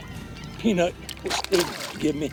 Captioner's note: spashes